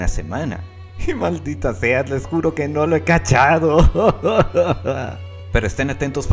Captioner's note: sob :P